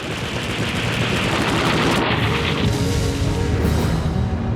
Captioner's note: gunshot fire